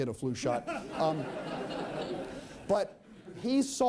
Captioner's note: laughter